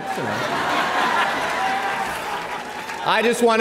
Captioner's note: audience laughing